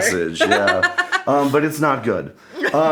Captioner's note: laughing